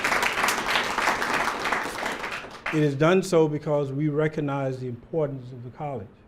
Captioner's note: applause